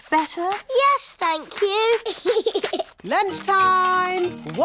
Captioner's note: giggles